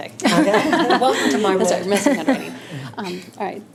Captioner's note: laughing